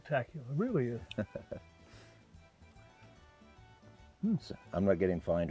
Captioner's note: Todd chuckles